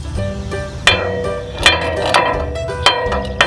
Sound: metal clang

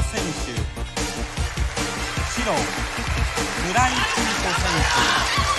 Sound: applause

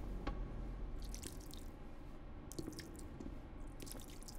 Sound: blood splattering

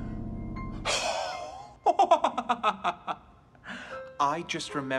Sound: laughs

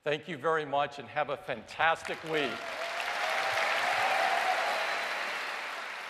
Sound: cheers and applause

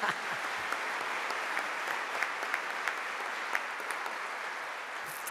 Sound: audience applauding

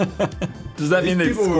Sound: laughs

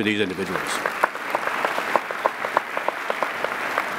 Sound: applauding

